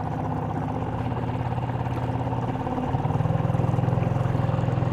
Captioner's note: boat engine purring